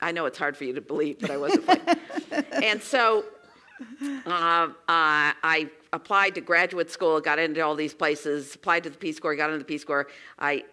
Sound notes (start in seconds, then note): 1.2 laugh